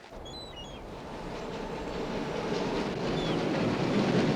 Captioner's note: train rumbling